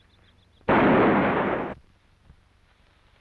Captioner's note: gunshot